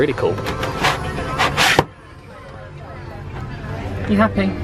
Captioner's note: visor scrapes